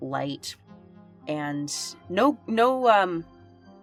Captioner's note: none